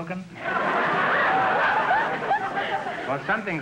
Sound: audience laughter

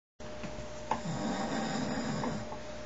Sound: snoring

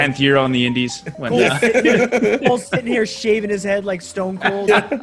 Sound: laugh

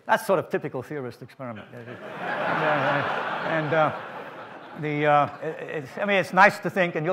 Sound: audience laughs

